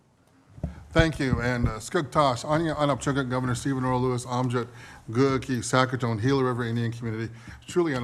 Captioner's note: speaking Native Language